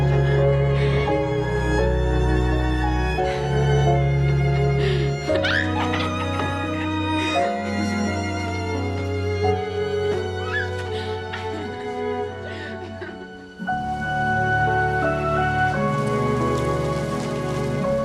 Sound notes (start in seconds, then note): 1.7 both laughing; 14.6 light orchestral music